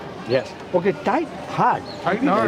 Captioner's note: non-english speech